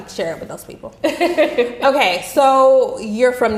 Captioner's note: laughing